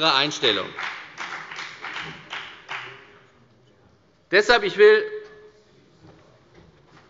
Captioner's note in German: Beifall bei der FDP